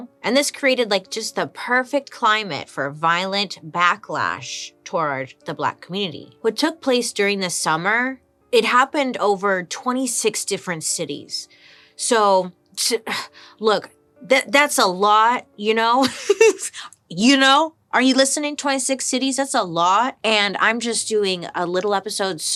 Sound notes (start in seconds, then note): 16.0 laughs